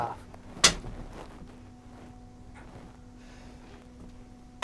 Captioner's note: smacking easel